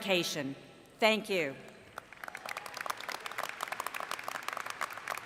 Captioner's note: applause